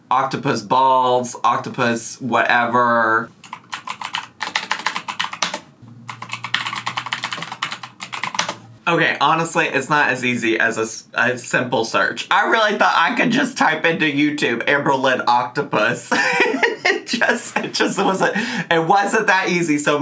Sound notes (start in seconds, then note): 3.4 keyboard clicks